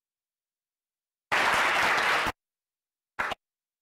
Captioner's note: applause